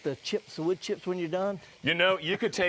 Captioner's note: laughs